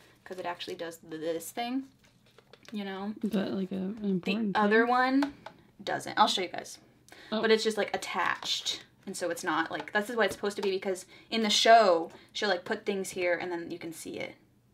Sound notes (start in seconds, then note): none